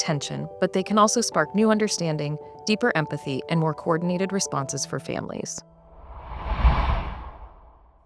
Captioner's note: whoosh